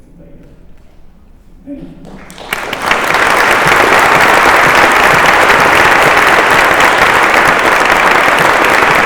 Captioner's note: applause